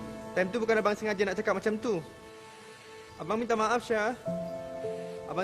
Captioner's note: speaking in foreign language